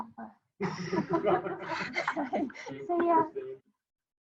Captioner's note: everyone laughing